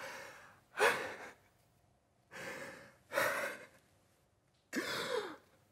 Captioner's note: khonon gasps